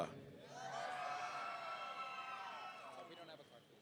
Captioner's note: audience cheering